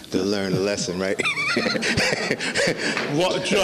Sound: laughing

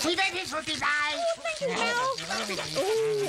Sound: speaking gibberish

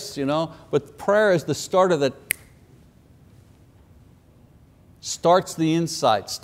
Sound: fingers snap

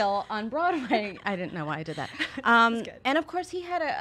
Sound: chuckles

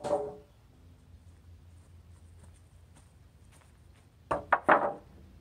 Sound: clank; footsteps; clanking

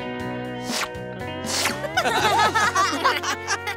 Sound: laughing

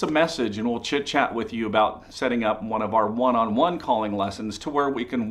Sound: none

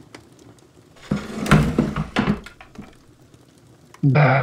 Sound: Chair scrapes as Holmes pulls it closer to the fire

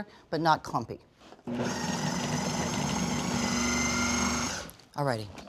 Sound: whirring

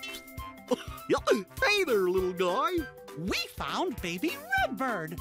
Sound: chuckles

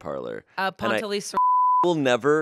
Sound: beep

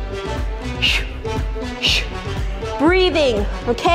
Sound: making whooshing sounds

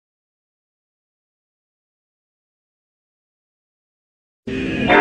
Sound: silence; console startup music plays

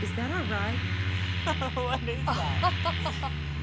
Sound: chortling

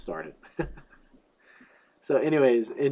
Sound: laughs

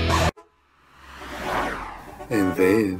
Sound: passing traffic sounds; creepy music

